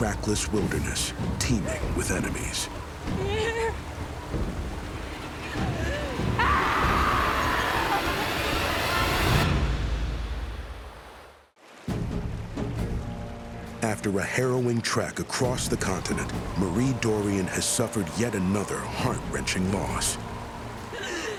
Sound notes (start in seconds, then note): 3.1 sobs; 5.5 screams